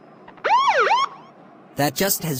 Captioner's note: police siren